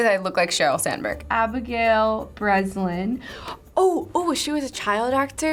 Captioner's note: gasps